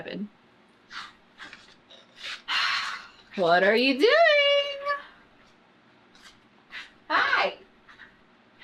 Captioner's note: sighs